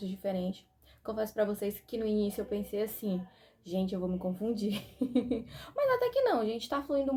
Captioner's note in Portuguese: risadas